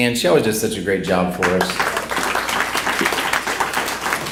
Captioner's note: applause